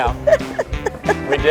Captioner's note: laughing